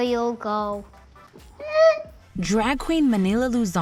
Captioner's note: whimpers